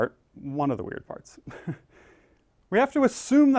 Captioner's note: laugh